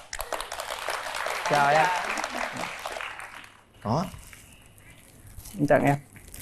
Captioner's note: applause